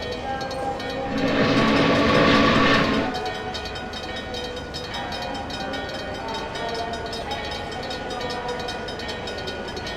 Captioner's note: MEC J Class whistle, second railroad crossing ringing in the distance